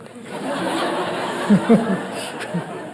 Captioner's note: crowd laughs